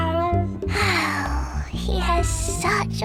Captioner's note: sighing